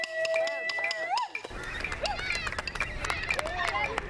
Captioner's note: cheering and applause